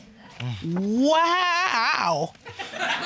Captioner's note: exclaims